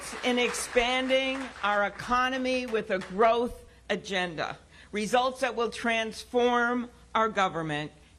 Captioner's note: cheers and applause